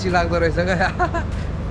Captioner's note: laughs